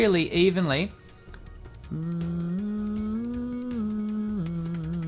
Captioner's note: humming through straw